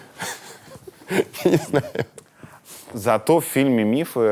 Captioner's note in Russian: смеясь